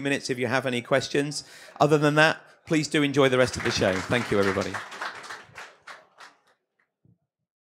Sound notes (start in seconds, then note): 5.8 audience clapping